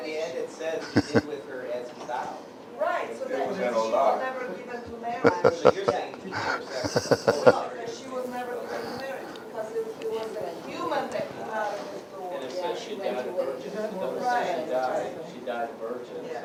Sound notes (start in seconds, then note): 5.2 Смех